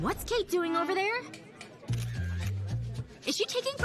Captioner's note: shutter sound